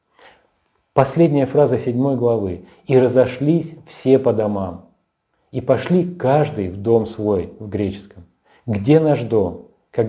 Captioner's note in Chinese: 希腊语